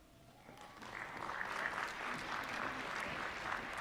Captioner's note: applause